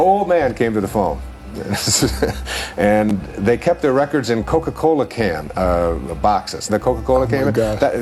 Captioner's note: chuckle